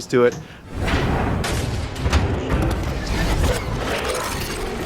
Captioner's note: metal vault unlocking